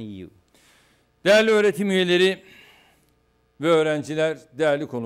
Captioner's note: non-english speech